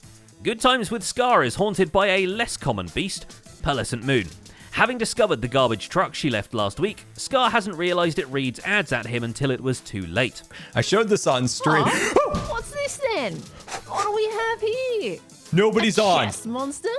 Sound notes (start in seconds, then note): 11.6 panicked noises